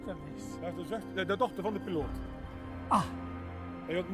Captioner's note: conversing in global language